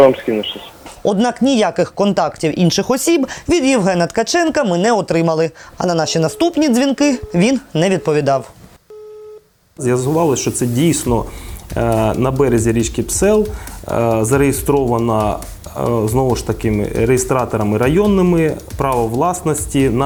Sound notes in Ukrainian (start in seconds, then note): 8.9 гудки